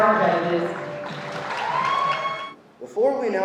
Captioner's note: audience applauding